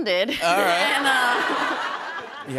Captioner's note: laughter